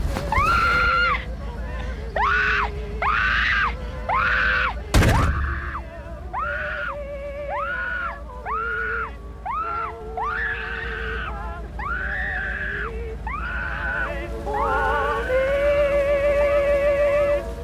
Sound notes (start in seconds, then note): 4.9 door slams, scream muffle, radio still playing; 7.5 Stephanie's screams and radio music; 13.3 radio volume increases, drowning out screams